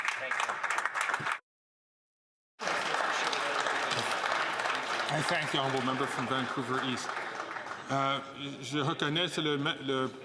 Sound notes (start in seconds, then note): 2.6 some Applause